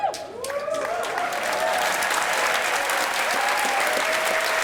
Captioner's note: applause